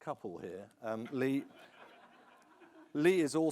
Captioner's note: audience chuckles